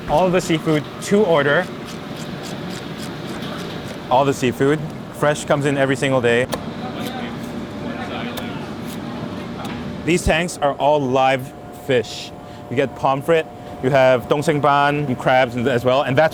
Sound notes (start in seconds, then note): 2.4 scaler scrapping; 6.8 knife chops; 13.9 speaks in foreign language